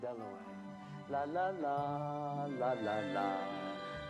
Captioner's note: humming